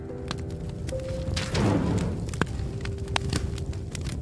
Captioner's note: fire crackling